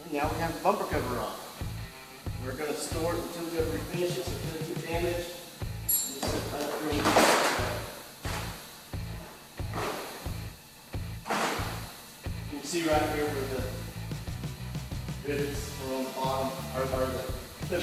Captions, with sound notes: And now we have the bumper cover off. We're gonna store the two different finishes that need to be painted, and just upgrade the-- (bumper cover clunks) You'll see right here where the bits around the bottom are harder,